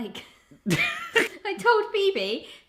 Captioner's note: chuckling